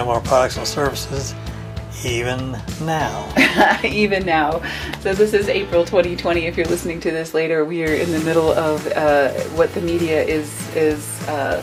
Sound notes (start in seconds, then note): 3.3 laughs